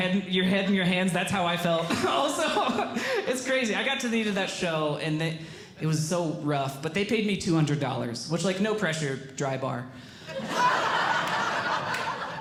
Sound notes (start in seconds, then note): 1.8 laughing; 10.3 audience Laughing